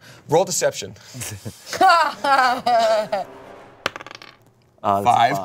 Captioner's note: laughs